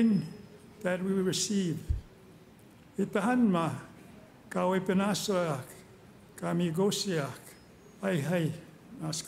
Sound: speaking Indigenous Language

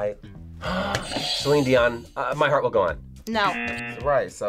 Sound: gasps; audio buzzes

